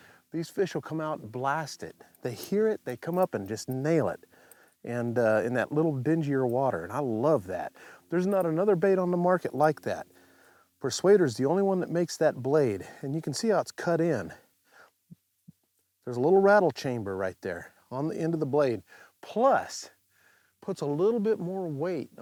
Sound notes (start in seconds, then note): none